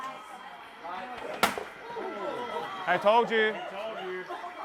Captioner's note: loud banging sound